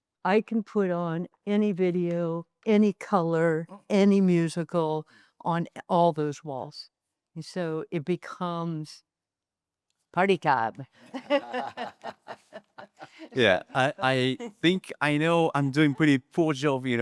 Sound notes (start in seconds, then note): 11.1 laughs